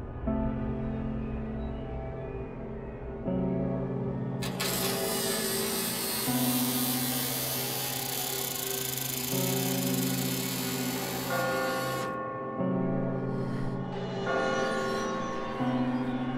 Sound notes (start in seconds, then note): 4.4 door Creaking; 10.9 church Bell Sound